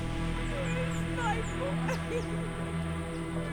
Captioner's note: sobbing